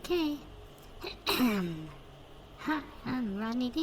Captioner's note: clears throat